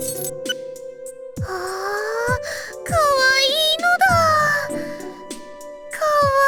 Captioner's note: squee